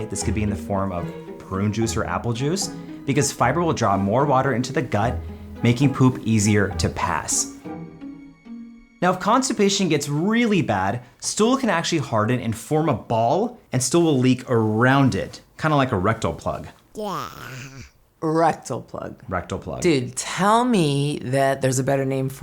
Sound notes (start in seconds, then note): 16.9 child gagging